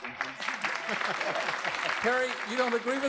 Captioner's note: laughs